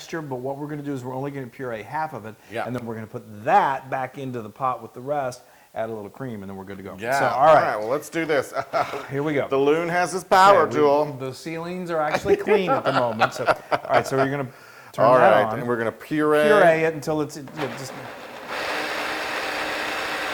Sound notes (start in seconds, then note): 8.1 laugh; 12.1 laugh